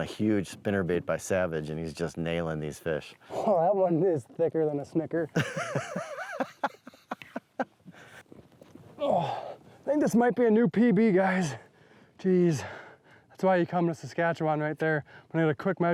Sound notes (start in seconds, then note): 5.3 laughs; 9.7 grunting